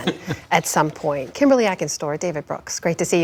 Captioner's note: laughter